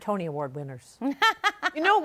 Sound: laughs

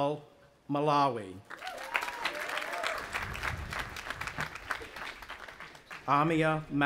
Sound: audience applauding and cheering

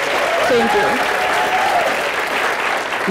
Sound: audience applauding

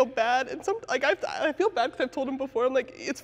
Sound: stutters

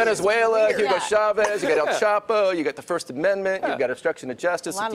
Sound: laughter

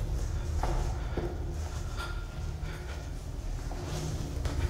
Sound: taking deep breaths

